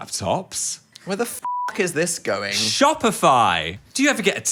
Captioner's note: beep